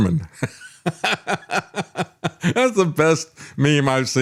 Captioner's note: laughs